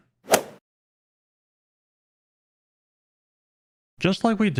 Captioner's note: golf swing sound effect